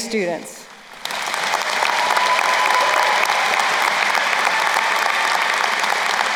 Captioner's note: crowd cheering and applauding